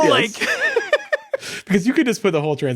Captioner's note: both laughing